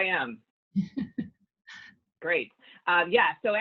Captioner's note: chuckles